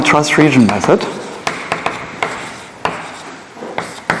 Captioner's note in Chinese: 铅笔划痕